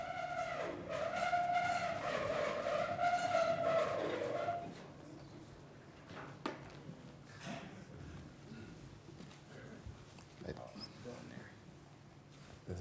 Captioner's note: screeching noise